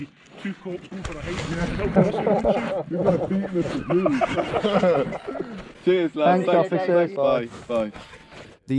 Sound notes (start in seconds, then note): 1.7 laughing; 4.9 everyone laughing